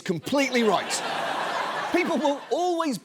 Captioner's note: audience laughs